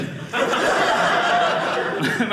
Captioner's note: audience laughing